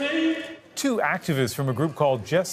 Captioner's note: yelling